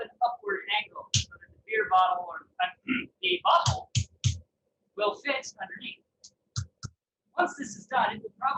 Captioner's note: clears throat